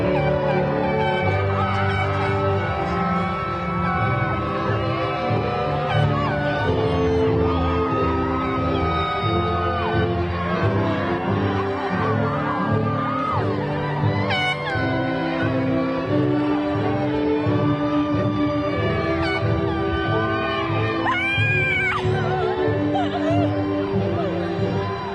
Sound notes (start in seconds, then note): 0.2 graduation music continues; 5.6 crowd cheering; 19.9 graduation music continues